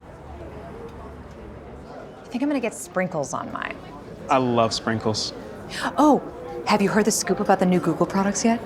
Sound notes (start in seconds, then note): 0.9 chatter